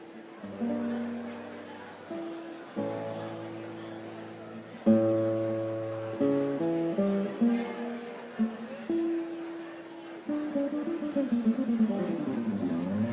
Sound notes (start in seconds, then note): 0.5 crowd murmuring